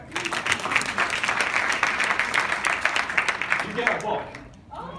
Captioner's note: audience applauds